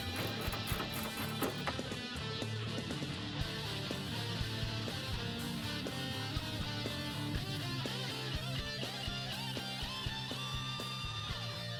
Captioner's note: ratcheting & Music